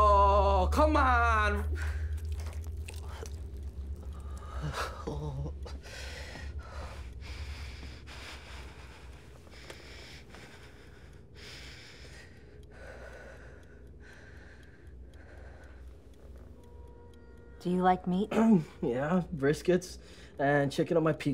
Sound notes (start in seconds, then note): 1.8 arm squishing; 4.5 Carlos muttering fearfully; 7.9 fearful breathing; 18.3 clears throat